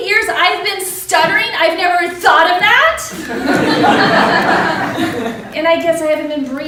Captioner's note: laughter